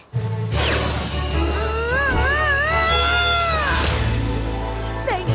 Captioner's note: panicked yells